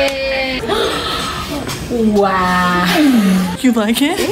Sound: gasps

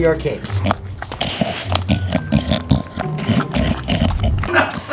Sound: snorting; laughing

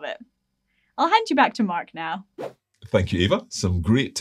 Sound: screen whooshing

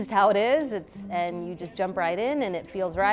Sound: none

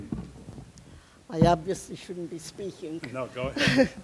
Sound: chuckles

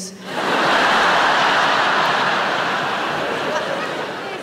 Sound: audience laughing

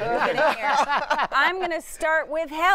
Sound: laughter

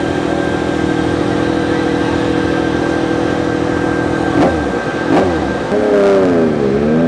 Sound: motorcycle engine starting and revving

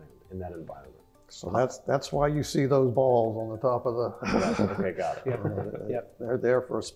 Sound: laugh

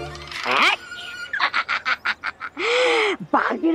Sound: laughing

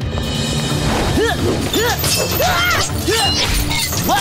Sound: grunting

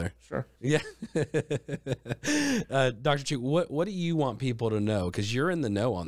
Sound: laughs

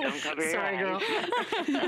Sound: laughter

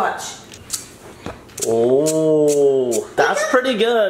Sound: scratching sounds

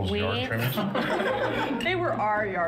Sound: laughing

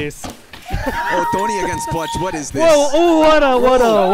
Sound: laughing

